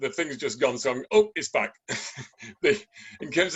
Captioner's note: laughs